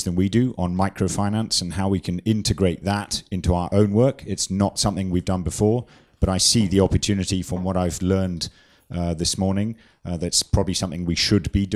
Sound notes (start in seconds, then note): none